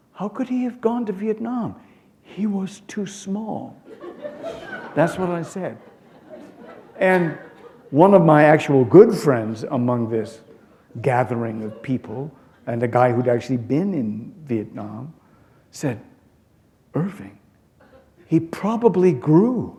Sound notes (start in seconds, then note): 3.8 laughter